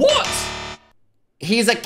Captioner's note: buzzer sounds